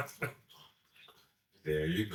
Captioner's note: laughs; slurps